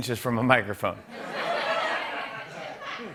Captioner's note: laughter